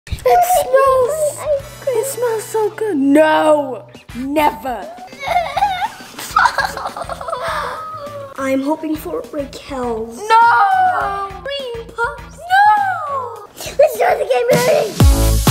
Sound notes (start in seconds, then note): 4.8 sobbing; 15.2 upbeat music